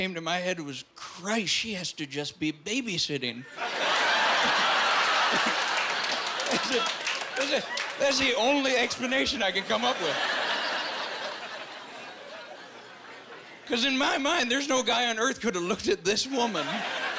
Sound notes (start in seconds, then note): 3.8 laughing